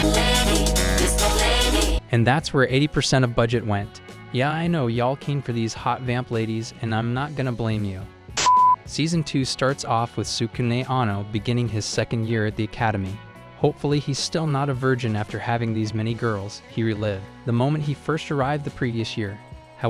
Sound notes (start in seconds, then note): 8.4 beep